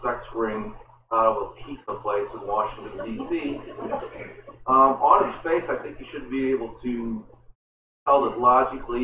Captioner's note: laughter